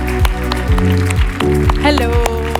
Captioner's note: audience applauding